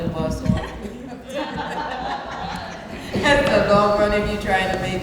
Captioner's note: laughs